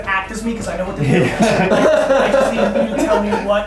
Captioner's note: laughing